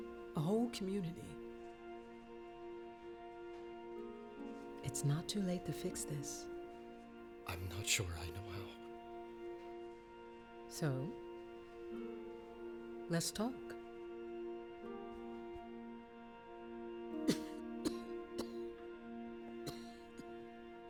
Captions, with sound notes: A whole community. It's not too late to fix this. I'm not sure I know how. So? Let's talk. [COUGHING]